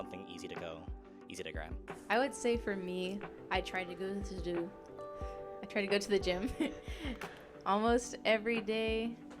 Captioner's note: laughter